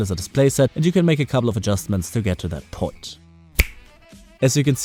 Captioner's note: snap